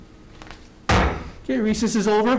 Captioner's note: gavel thumps